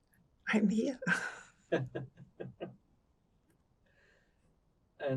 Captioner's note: laughing